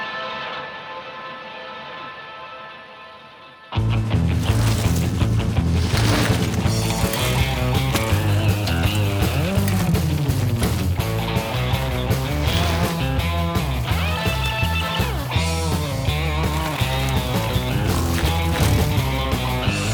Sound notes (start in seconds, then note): 3.8 energetic guitar music continues; 6.6 bikes whooshing; 15.4 energetic guitar music continues